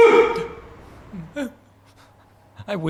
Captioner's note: whimpering